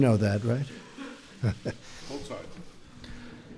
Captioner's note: laughter